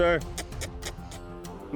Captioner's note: kissing sound